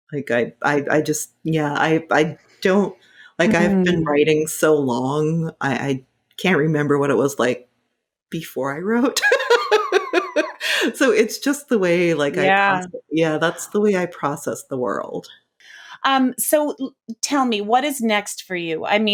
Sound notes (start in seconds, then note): 9.0 laughing